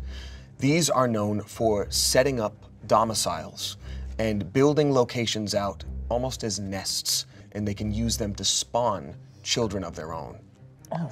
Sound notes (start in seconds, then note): none